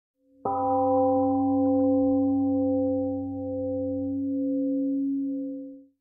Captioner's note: temple gong rings and fades